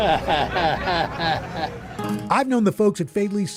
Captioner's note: chuckles